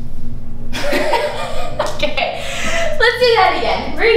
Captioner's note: laughter